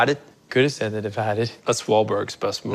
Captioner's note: boston accent